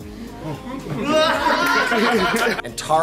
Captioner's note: clapping, cheering, and laughing